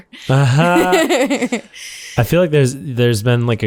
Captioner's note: laughter